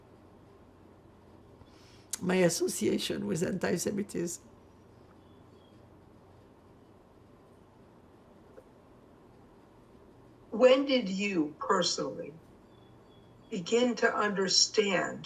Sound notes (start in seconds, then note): 4.5 pauses 6 seconds